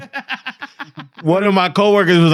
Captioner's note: laughing